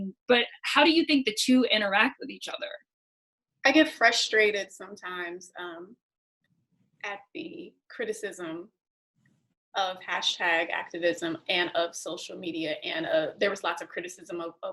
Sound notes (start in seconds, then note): none